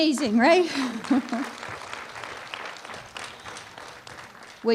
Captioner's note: applause